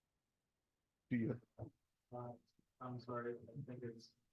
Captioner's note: speaking faintly